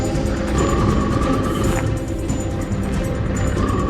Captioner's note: creature growling